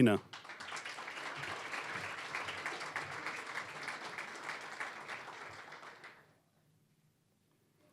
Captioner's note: applause